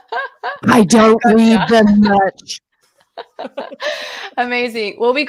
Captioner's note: laughs